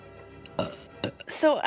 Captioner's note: burps; burps again